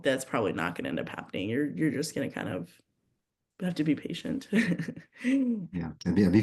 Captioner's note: chuckles